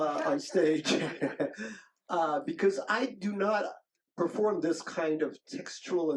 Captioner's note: chuckles